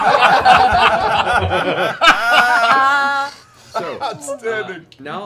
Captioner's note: laughter